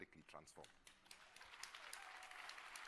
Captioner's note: applause